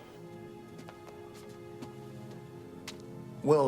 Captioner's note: footstep